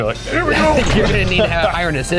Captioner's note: laughing